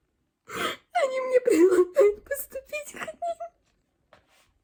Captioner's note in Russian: плач